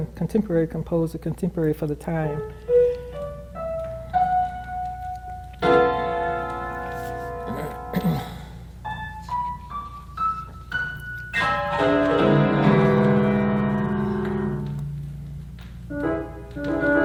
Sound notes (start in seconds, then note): 3.1 clears throat; 5.2 perky music